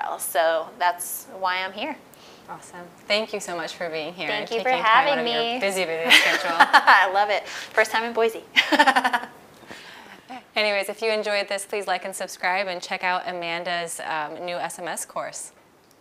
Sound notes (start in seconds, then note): 6.0 laughing; 9.7 laughs